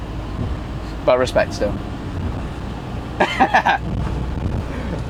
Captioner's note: laughing